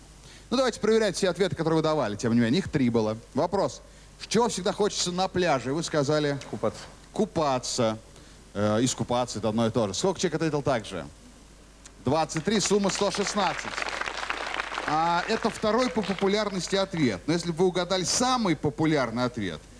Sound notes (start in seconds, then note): 12.3 applause